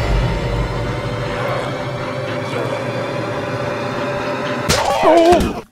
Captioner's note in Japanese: 効果音